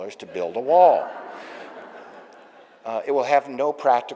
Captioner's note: audience laughing